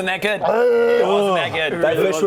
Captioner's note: hrrrrggg